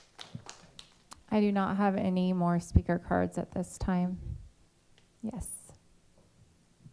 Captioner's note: applause